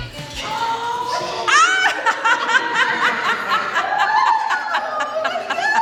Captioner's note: laughing